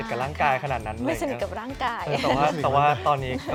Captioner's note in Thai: เสียงหัวเราะ